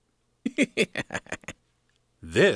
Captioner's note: laughing